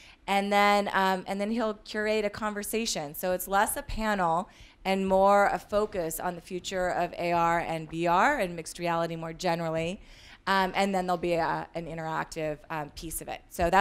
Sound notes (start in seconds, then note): none